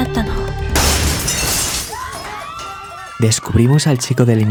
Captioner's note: noise and shouts